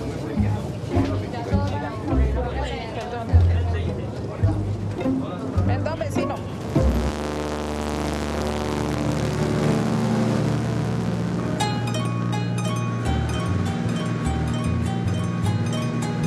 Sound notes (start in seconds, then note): 5.6 Spanish spoken audio